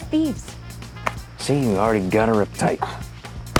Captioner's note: whack